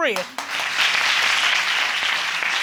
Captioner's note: audience applauding